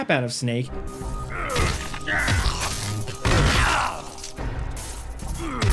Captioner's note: characters grunting